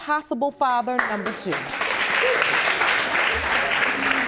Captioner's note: audience applauding